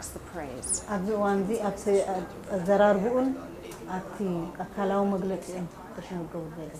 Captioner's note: speaks in foreign language